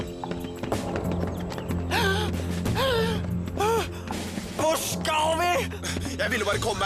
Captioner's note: wheezing